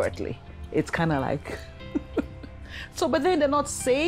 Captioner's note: laughs